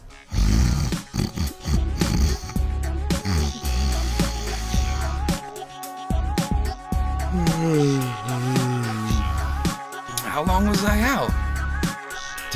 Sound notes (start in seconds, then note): 0.2 snoring; 7.2 yawn